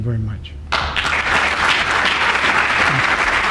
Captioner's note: applause